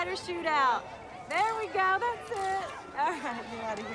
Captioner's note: camera shutter clicks